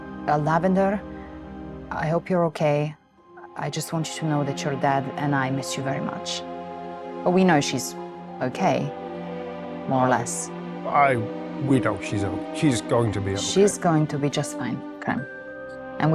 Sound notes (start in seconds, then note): none